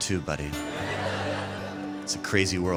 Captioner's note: laughter